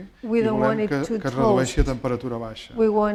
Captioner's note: speaking spanish